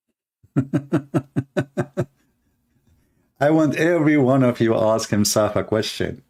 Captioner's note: Ketawa